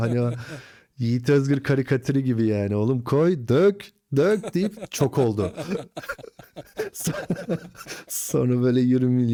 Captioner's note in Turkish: kahkaha